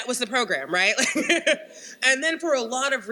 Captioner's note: laughs